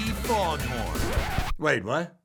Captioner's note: record scratches